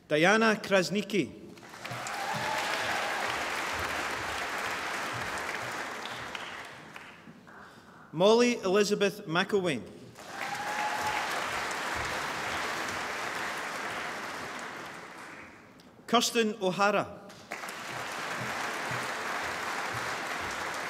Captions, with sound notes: Diana Krasniqi (APPLAUSE) Mollie Elizabeth McIlwaine (APPLAUSE) Kirstin O'Hara (APPLAUSE)